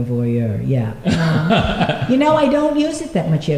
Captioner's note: laughter